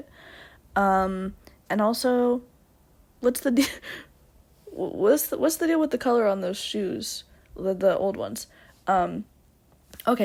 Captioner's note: laughs